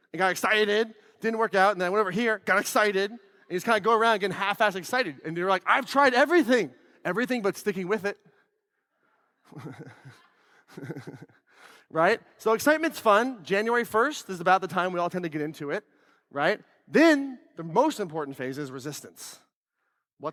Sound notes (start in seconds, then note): 9.5 laughs